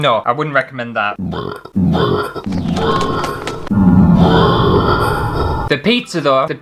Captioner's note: burp!!!